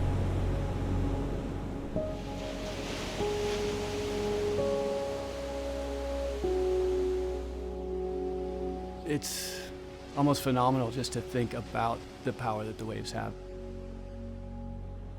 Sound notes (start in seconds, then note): 0.0 airy pensive music; 2.8 waves crashing